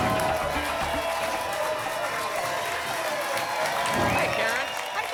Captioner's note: whoosh; applause and cheering